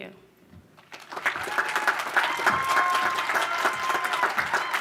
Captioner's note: audience applause